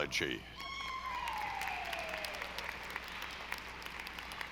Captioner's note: audience applauding